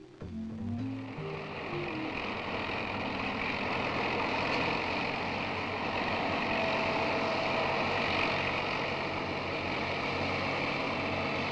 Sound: sound of machinery

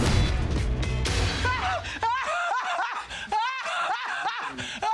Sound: laughing

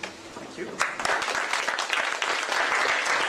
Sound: applause

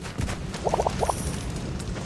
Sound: bubbles sound

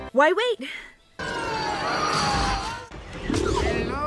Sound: screaming

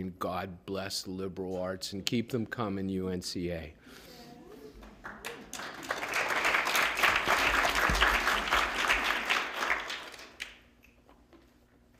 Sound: applause

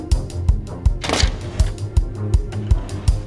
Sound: lock snapping

